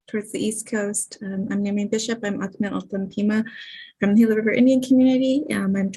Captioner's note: foreign Language